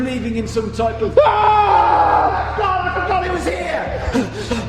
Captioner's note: screams